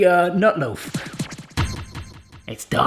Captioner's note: disc scratching